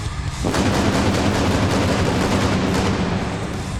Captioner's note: pyro blasting